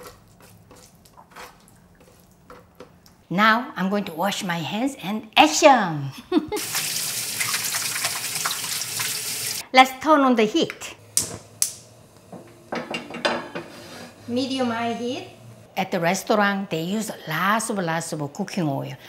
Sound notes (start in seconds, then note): 6.2 laughs; 6.6 running water